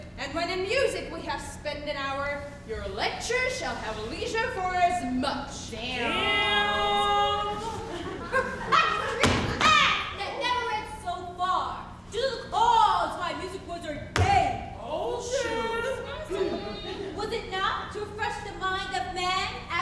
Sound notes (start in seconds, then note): 7.5 audience laughs